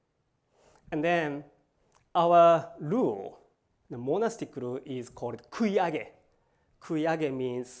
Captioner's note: japanese